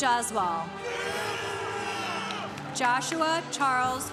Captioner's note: congregation cheering